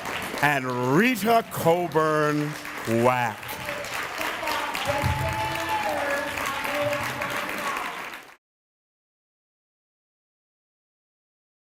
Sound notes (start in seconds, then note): 4.0 applause